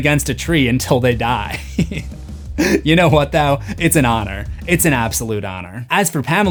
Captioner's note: laughing